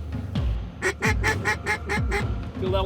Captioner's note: duck calls